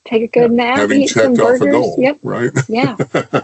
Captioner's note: laughs